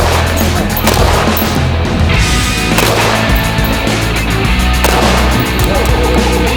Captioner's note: gun bangs; rock music